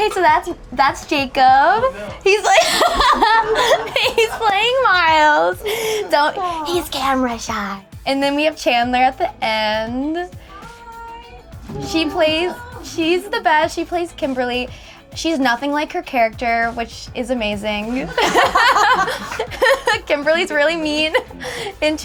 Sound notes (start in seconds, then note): 2.0 group laughing; 7.0 whispers; 11.8 laughing; 18.0 group laughing